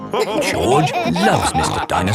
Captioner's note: all laughing